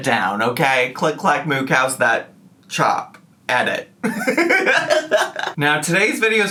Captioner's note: laughs